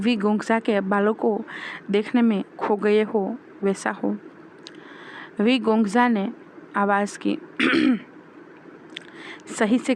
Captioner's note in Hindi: गला साफ़ करने की आवाज़